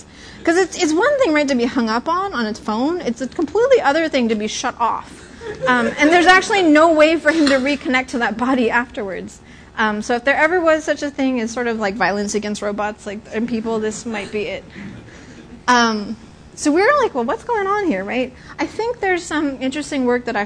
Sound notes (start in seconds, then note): 5.1 laughter